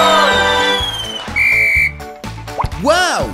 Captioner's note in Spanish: Sonido de silbato